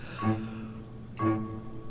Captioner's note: Christopher breathes in